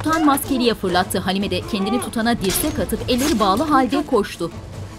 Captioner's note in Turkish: Kılıç sesleri